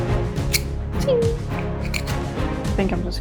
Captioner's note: poorly made knife sound